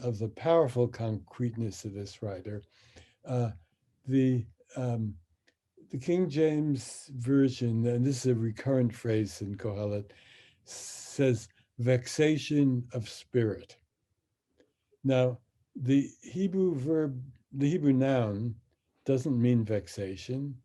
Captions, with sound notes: of the powerful concreteness of this writer, the King James Version, and this is a recurrent phrase in (speaks in Hebrew), says vexation of spirit. Now, the Hebrew verb, the Hebrew noun, doesn't mean vexation